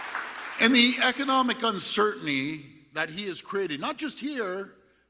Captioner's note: applause